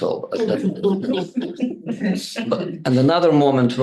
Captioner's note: group laughing